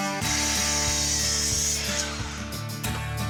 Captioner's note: sawing